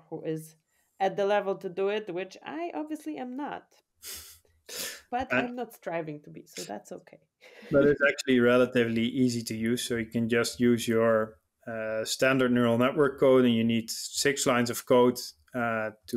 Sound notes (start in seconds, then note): 5.3 chuckles; 7.6 laughing